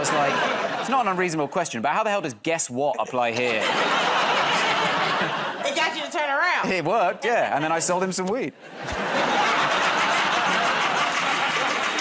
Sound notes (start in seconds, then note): 2.8 laughter; 8.6 laughter